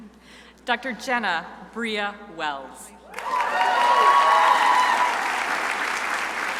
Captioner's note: crowd applauding